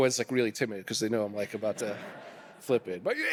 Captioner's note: audience laughing